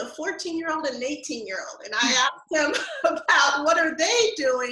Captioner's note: laughs